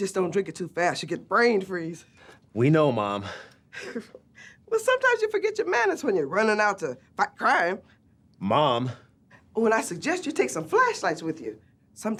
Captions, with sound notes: Just don't drink it too fast, you'll get brain freeze. - We know, mom. - (laughs) Well sometimes you forget your manners when you're running out to fight crime. - Mom! - Oh, and I suggest you take some flashlights with you.